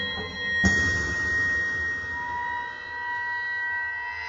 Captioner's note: none